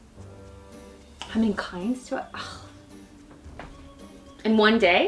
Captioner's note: scoffs